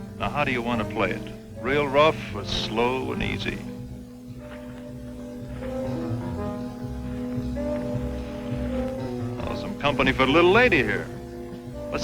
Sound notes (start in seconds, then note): 5.7 footsteps approaching